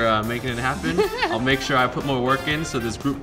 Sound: laughs

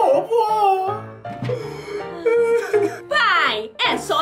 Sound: crying

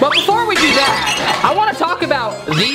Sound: plate cracking sound

